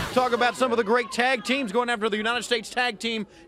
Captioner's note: crowd cheering